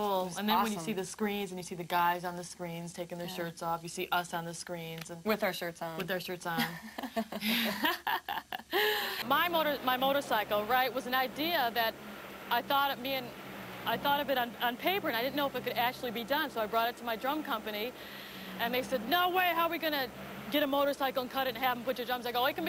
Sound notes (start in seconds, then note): 6.5 laughs